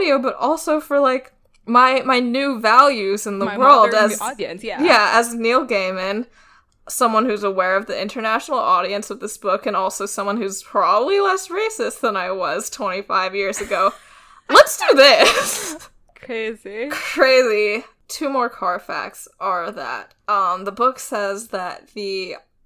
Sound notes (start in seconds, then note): 13.9 laughs